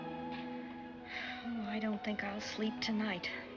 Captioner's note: sighs